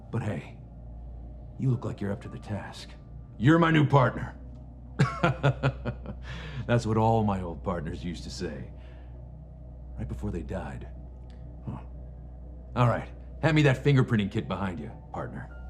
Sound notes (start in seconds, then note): 5.0 laughs